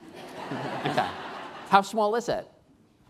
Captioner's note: laughing